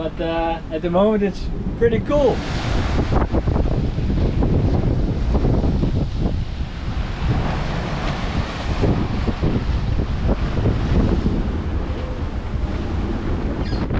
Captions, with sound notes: but that at the moment it's pretty cool. (wind and waves)